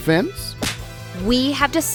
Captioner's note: whack